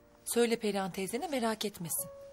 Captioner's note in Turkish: none